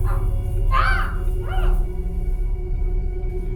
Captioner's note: yelling